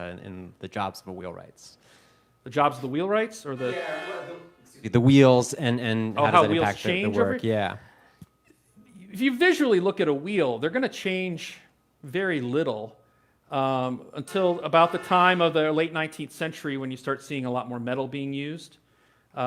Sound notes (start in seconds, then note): 4.2 vehicle honking